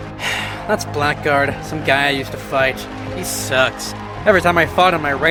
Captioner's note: sigh